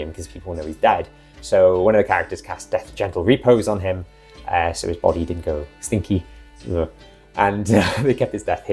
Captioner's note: urgh